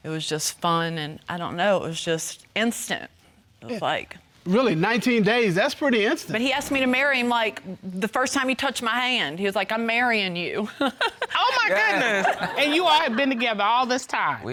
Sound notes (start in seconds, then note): 11.0 laughs